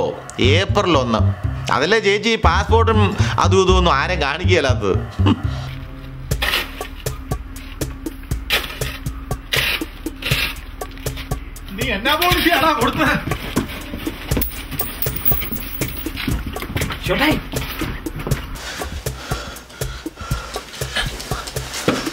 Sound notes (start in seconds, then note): 14.4 coin tings; 20.0 panting